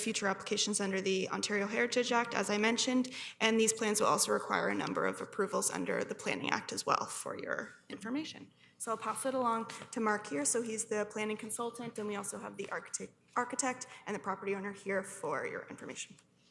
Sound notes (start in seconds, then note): none